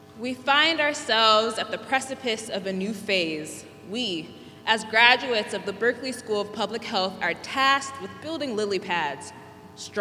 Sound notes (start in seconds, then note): none